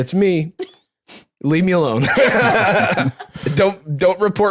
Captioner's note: all laughing